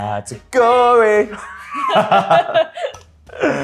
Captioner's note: laughs